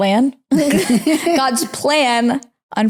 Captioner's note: laughing